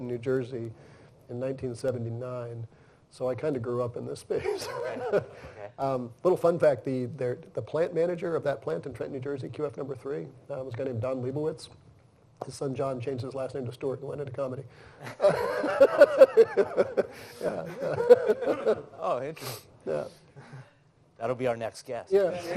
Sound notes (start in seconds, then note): 15.0 laughter